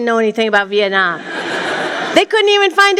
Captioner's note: laughter